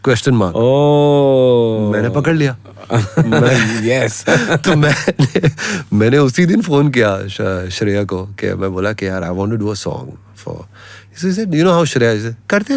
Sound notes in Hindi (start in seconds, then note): 4.2 हंसी